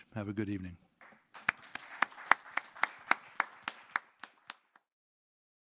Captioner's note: audience applauding